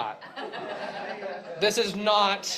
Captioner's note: chuckles